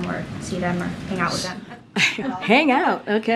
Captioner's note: laughter